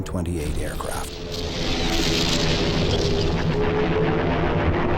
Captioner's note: explosions booming; plane engines rumbling